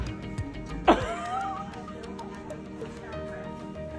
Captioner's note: laughs